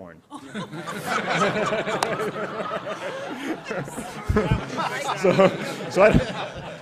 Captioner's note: laughter